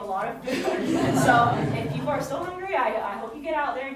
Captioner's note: audience chuckling